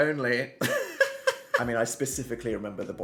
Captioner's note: laughs